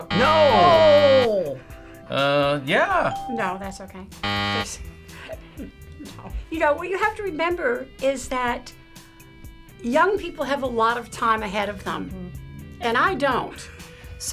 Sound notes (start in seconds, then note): 3.1 ding; 4.2 buzzer